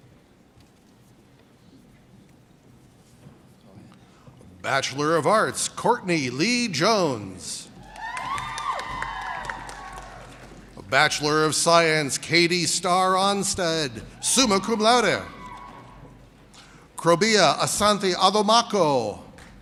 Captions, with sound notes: Oh yeah. - Bachelor of Arts, Courtney Lee Jones. (audience cheers and applauds) Bachelor of Science, Katy Star Onsted, suma cum laude! (audience cheers and applauds) Crobea Asante Odomaco.